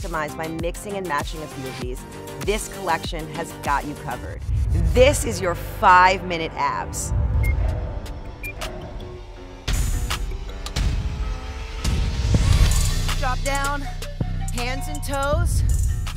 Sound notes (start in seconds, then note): 7.0 upbeat music; 8.4 clock ticking